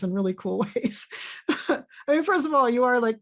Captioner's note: laughs